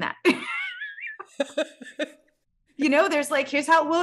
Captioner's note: both laughs